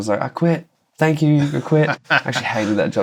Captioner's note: laughter